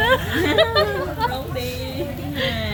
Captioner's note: laughs